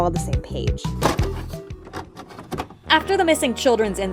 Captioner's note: tape recorder sounds